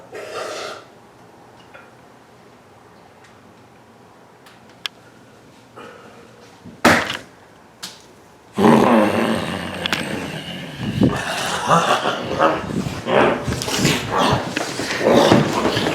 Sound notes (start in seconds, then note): 8.5 growls; 14.0 Brad laughs